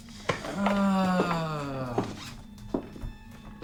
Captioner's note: Duffy moans